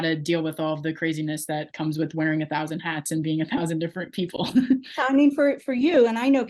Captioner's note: chuckles